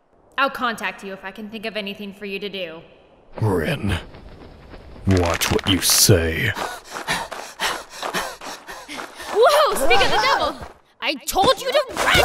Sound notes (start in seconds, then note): 6.6 panting